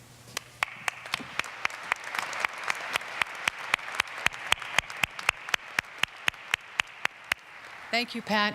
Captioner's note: applause